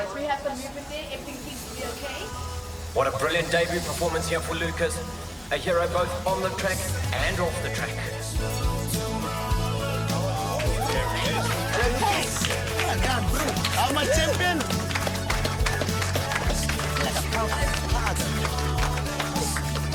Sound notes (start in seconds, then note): 8.8 motivational music; 11.3 crowd cheering; 14.9 clapping; 17.0 motivational music